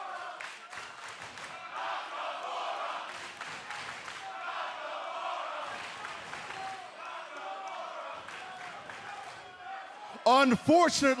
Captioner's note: fans chanting